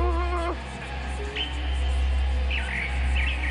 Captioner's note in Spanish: Quejido